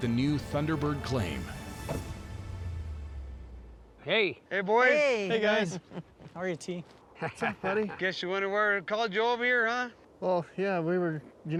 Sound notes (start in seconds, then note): 2.2 truck door closes; 3.1 footsteps